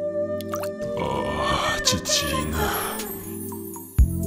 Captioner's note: Gull's sensual voice